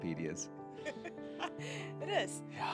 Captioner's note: laughing